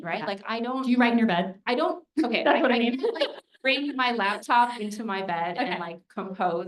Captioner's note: laughs